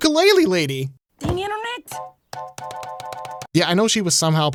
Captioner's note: computer beeping